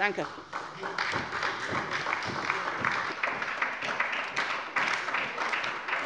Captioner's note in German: Anhaltender Beifall bei der SPD